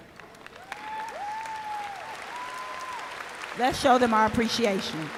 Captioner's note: cheers